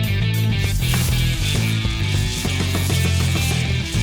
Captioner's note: feet thud; sword crackling